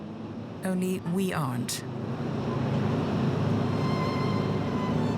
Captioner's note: boat engines whirring; elegant classical music